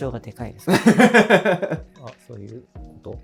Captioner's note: laughing